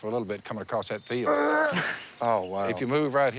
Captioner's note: throws up